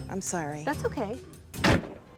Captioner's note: door slams